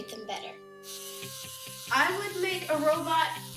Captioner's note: robot whirling